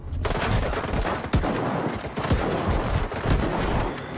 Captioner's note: guns firing